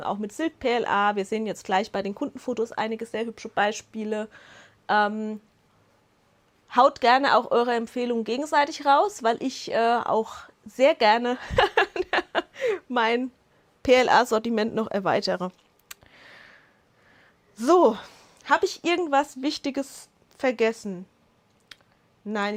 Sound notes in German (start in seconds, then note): 11.5 Lachen